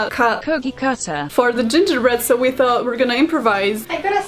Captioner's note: Google translate voice: COOKIE CUTTER